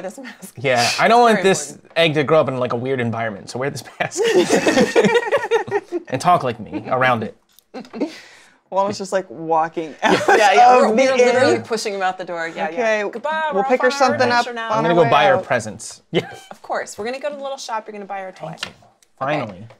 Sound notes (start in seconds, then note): 3.9 laughter; 10.1 laughs